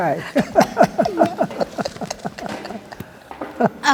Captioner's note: both laugh